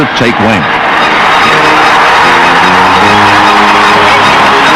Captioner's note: crowd cheering